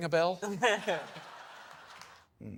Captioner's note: people laughing